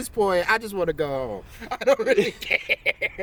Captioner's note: laughter